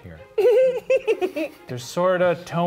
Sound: chuckling

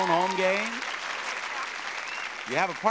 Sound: audience applauding

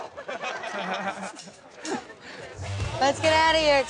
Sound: laughter

